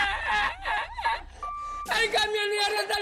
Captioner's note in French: Rires; bip; Rires